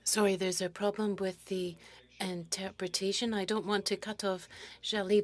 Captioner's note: speaking French